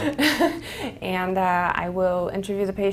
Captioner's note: laugh